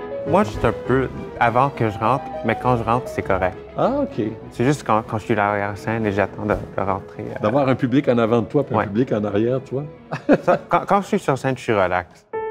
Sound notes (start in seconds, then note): 10.1 laughs